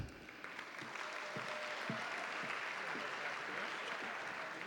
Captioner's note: audience applauding